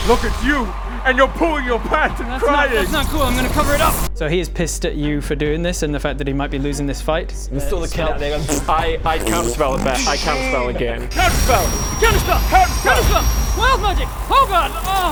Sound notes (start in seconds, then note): 8.0 pffffpt